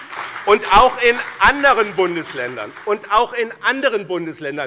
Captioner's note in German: Beifall bei dem BÜNDNIS 90/DIE GRÜNEN und der CDU